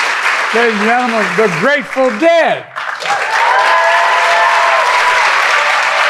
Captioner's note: audience clapping